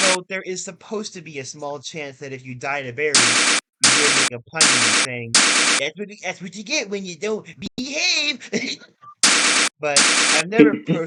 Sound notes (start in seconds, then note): 7.5 stupid laugh